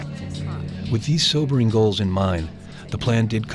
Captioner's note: voiceover